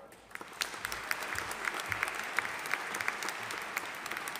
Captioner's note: audience applauding